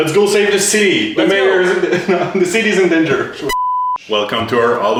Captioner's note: laughs